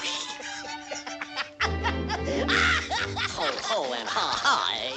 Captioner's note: laughing loudly